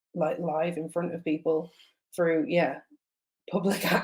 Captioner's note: laughs